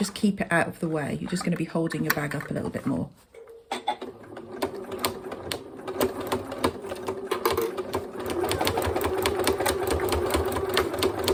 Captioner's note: sewing machine noise